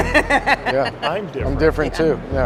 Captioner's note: laughter